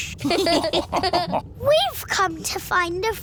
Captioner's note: all laughing